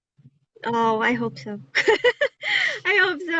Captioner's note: laughter